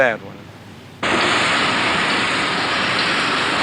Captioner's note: loud machinery